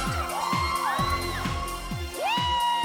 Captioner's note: shouting